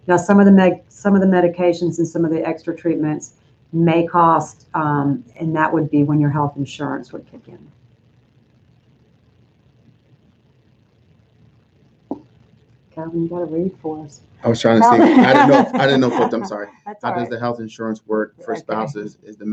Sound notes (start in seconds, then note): 14.5 laughing